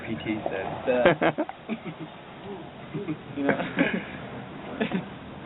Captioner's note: soldiers laughing